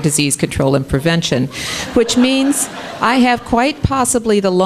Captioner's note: audience laughing